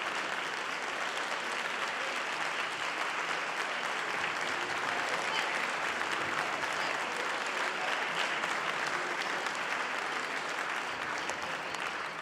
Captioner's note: applause